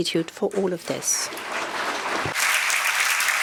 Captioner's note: applause